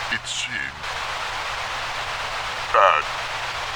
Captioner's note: Static